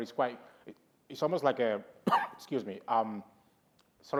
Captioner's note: coughs